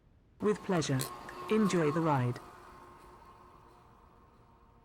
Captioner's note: car